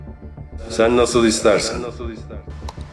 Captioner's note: unknown Echo